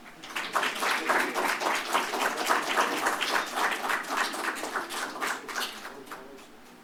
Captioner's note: applause; silence